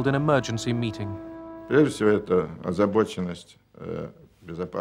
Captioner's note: speaking Russian